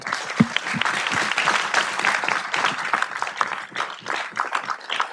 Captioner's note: audience applauding